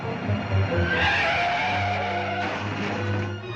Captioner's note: tires screeching